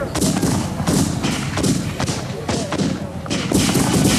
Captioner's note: guns bang